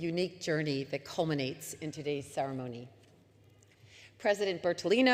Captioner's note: none